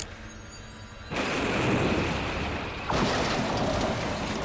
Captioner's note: crashing